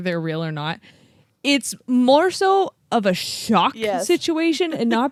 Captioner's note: laughs